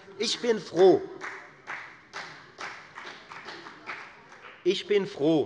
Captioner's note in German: Beifall bei der FDP